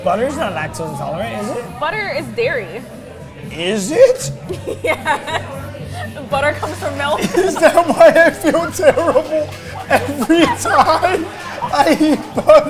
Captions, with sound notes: - Butter's not lactose intolerant, is it? - Butter is dairy. - Is it? - (laughing) Yes. Butter comes from milk. - Is that why I feel terrible every time I eat butter?